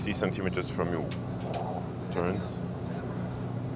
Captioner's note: expels breath